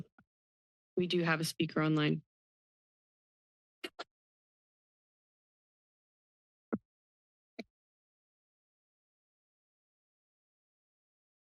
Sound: pause

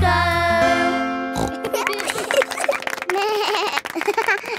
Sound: snorts; laughing; bleats and laughs

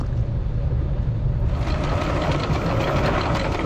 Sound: chain rattles

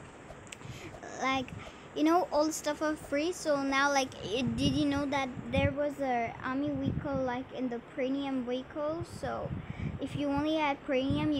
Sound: voice disturbance

